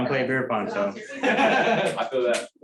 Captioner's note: laughter